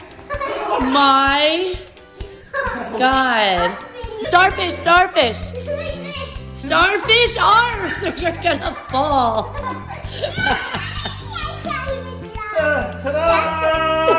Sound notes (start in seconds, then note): 7.5 cheering